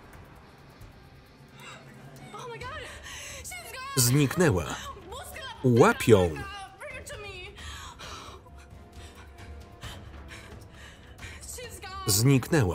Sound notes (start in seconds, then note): 1.0 dramatic music; 5.0 speaking foreign language